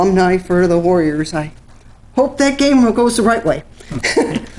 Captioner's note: chuckles